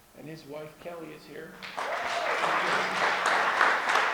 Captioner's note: audience applause